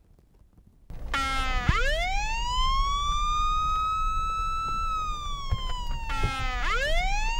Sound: police sirens

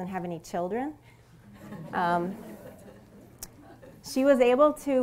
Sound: laughter

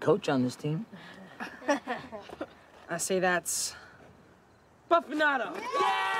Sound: chuckles

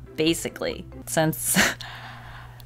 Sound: chuckles

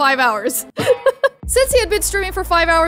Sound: laughs

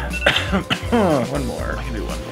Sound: coughing

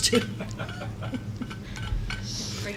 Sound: laughter

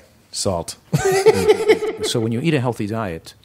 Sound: laughter

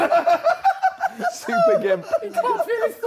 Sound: JJ laughing

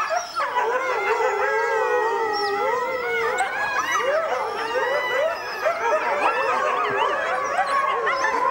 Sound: wolves howling

